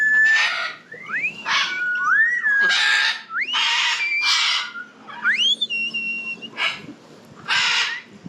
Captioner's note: whistling battle intensifies